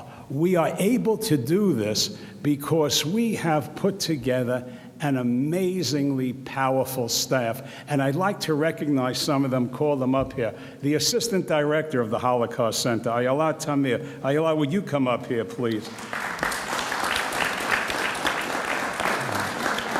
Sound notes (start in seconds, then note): 15.8 audience applauds